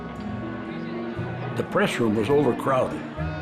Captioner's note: people clamoring